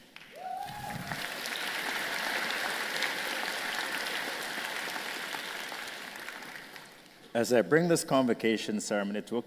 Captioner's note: applause